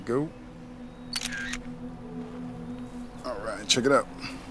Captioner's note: camera clicking